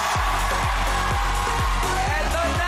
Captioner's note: upbeat music playing; overlapping screaming